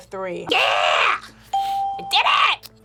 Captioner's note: bell rings